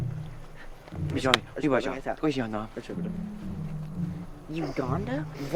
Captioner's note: both speaking in foreign language